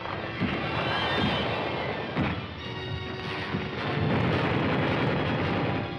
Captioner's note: machine guns blasting